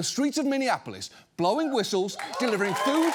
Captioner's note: audience cheers